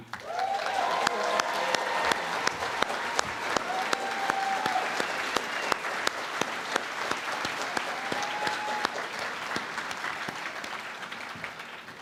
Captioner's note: cheering and Applause